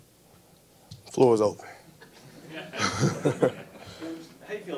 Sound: laughs

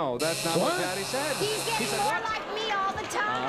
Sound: buzzer

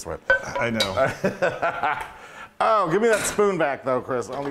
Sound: laugh

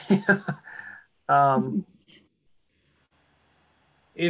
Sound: laughs

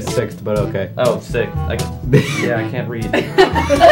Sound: wheeze; laughter

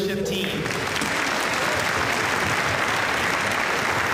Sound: applause

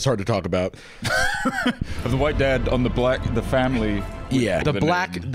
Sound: laughs

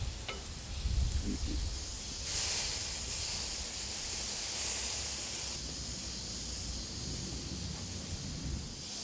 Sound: sizzling Sounds

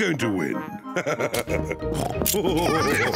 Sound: both laugh

